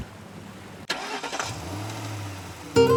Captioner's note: car engine starts